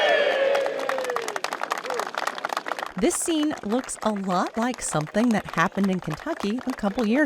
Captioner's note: cheers